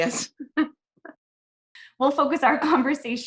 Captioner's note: laughing